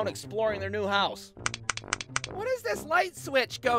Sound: clicks the switch

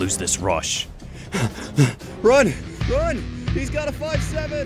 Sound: heavy breathing

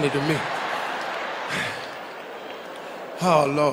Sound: audience laughing

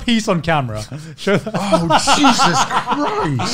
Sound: laughing

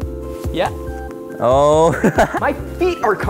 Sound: laughs

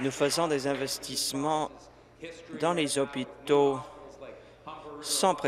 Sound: applause

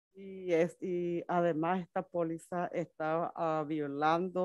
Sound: speaks Spanish

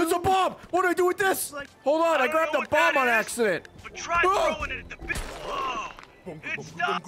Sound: screams

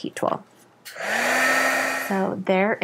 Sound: whirs loudly

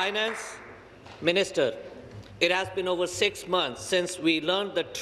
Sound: applause

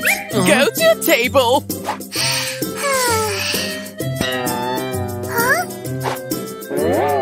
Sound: deep sigh

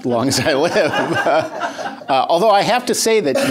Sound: laughter

